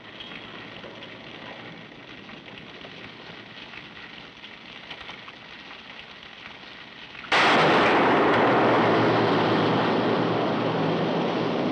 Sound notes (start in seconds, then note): 7.3 gunshot